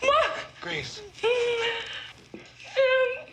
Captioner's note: sobs